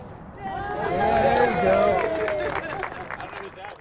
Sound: applause

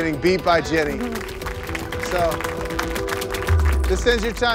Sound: applauding

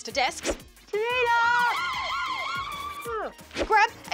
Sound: sirens

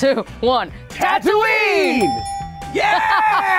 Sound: dinging; laughs

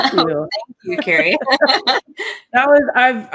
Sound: laughter

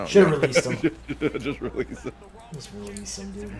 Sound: laugh

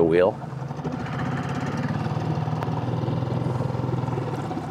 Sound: motor rustling

